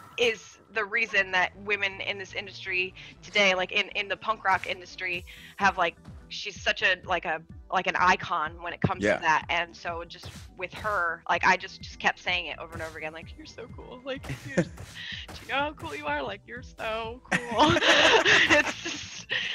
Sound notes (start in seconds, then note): 17.3 laugh